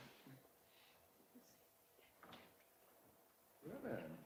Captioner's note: Mary whispers